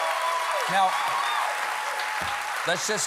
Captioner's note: applause